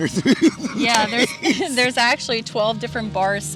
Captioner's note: laughing